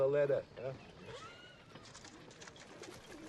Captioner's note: laughs